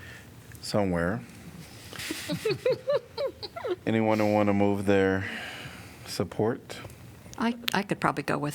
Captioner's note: laughter